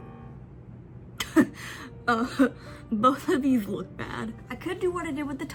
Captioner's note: laughs